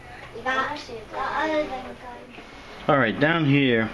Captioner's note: background noise and kids